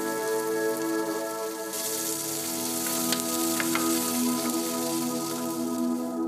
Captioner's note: sizzling